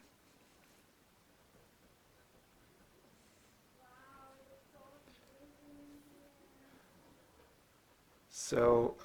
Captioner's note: background Conversation